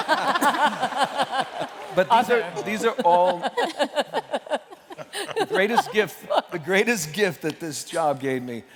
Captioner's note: laughter